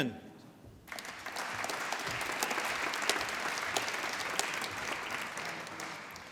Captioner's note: applause